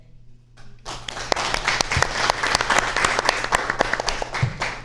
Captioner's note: audience applauds